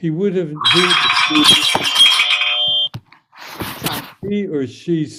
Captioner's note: timer clamoring